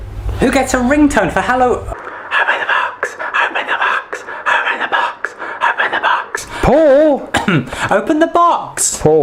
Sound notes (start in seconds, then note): 2.5 whispered; 7.3 cough